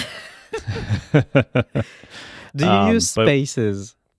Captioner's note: laughing